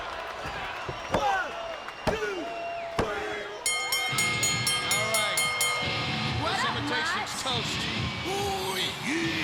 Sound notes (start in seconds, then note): 3.6 bell chimes